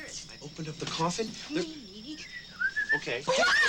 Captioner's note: whistling